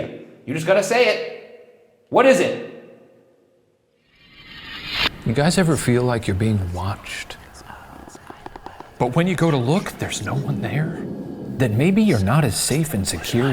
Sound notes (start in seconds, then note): 7.0 voices whispering; 9.6 wind whooshing